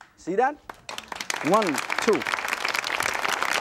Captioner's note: applause